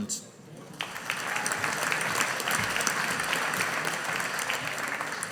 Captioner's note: audience applauding